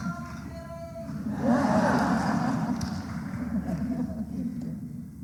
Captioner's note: laughter